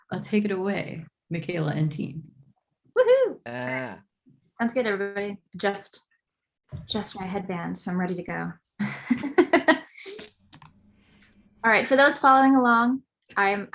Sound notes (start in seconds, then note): 3.0 whoops; 9.5 laughs